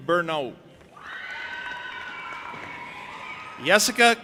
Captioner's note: audience applauding and cheering